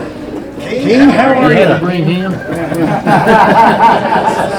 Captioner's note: men laugh